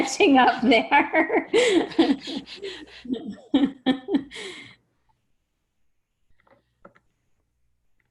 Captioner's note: laughter